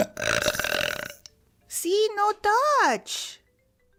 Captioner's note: gulp gulp